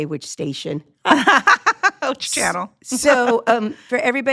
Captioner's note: laughs